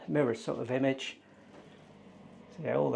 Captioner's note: extractor fan whirring